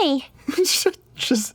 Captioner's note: giggles